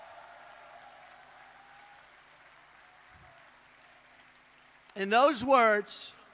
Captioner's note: applause